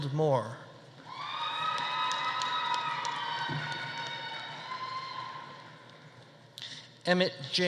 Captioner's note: audience cheering; audience applauding